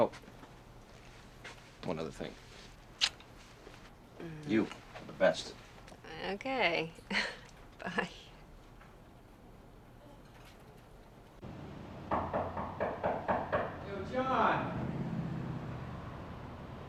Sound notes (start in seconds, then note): 7.0 laughs; 12.0 knocking on the door